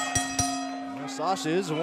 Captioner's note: bell ringing